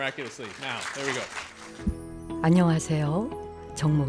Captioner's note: audience applauding; gentle music; speaking in Korean